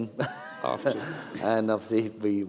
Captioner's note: laughs